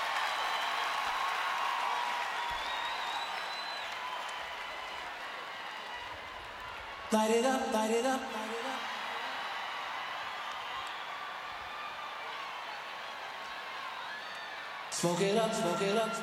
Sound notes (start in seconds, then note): 0.0 applause; 12.6 echoes